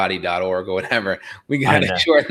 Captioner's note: chuckles